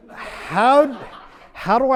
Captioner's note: audience laughs